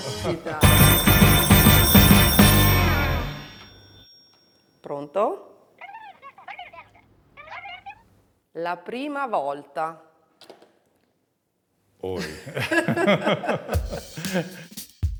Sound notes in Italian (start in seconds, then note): 0.5 squilla il telefono; 5.6 vociare indistinto